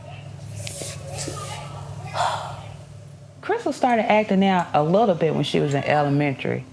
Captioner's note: sighs